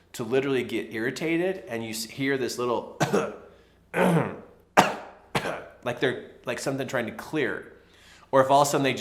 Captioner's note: coughs